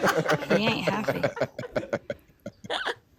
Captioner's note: laughing